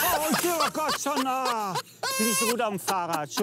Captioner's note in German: Lachen